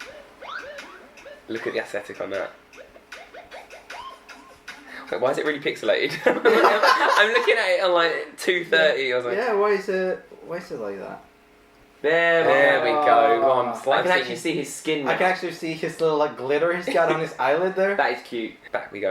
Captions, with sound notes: (electro-pop intro) Look at the aesthetic on that. Why is it really pixilated? (laughing) I'm looking at it and I'm like at 230. - Yeah, why is it like that? - There we go. - There we go. - I can actually see his skin now. - I can actually see the little glitter he's got on his eyelid there. - That is cute.